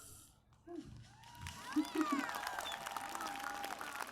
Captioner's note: cheers, applause